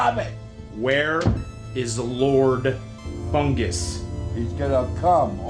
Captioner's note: door closes